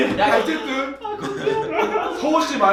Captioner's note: crying